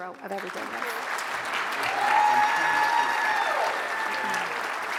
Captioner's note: audience applauds